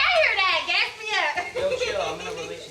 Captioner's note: murmuring and giggling